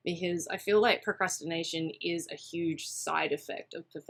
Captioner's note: none